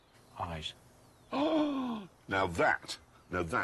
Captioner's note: jeremy gasps